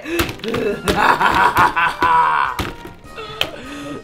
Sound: evil laughter

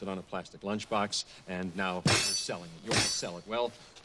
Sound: banging

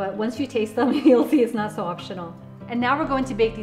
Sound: chuckles

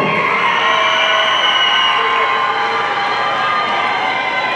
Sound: audience cheering

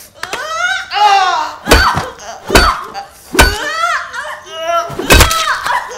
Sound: screams

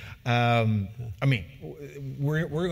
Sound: laugh

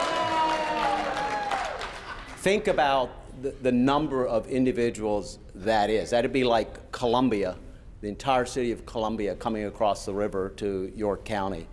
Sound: applause

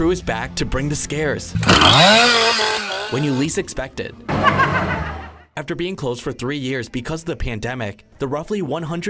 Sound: laughs

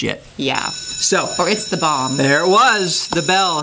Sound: bell rings

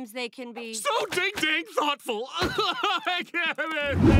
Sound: crying

